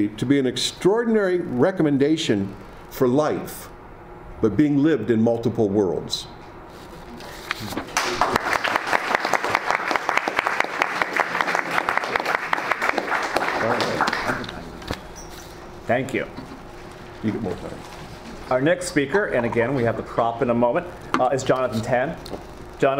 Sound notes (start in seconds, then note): 7.8 all applauding; 14.4 quietly responds